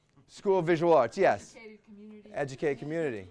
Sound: voiceover

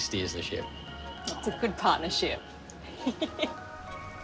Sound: laughs

